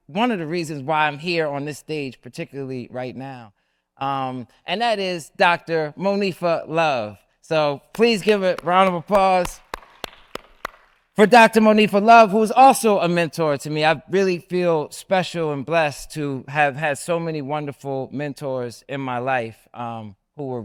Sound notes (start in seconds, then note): 9.6 audience applauds; 9.6 claps